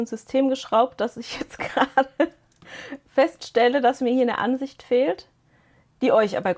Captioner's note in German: gelächter